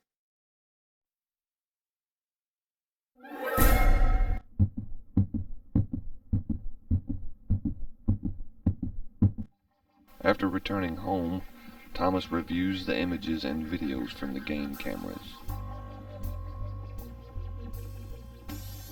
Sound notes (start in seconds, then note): 3.3 suspenseful music; 5.7 rhythmic beating; 16.2 techno music